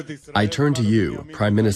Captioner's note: through translator